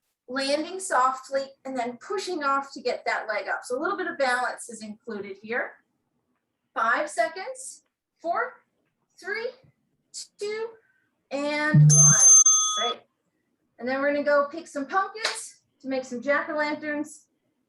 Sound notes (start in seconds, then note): 11.7 bell rings